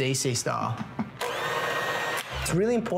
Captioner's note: running blender